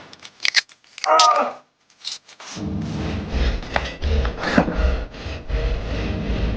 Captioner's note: screams; squishing; dramatic music; squishing